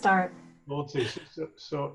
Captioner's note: faintly speaking